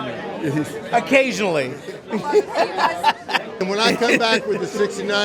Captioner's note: laughs